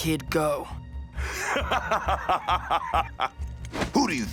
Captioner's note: laughing